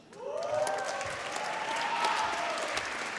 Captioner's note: applause